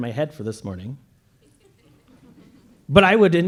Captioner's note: laughter